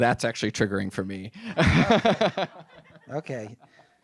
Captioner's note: laughs